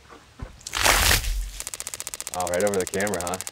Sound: water sloshing

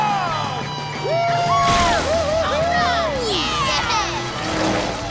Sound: cheering

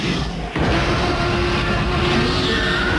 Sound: T-Rex roars

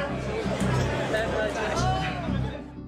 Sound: crowd talking

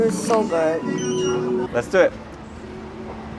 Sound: machine beeping

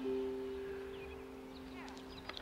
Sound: children chattering

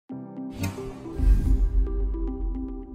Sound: whoosh

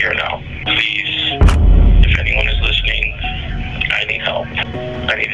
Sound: camera shutters and bass echoes

